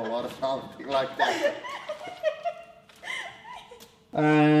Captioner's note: giggling